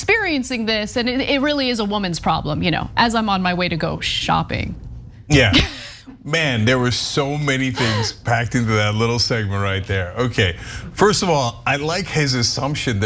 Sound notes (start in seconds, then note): 7.7 laugh